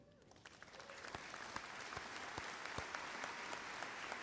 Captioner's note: applause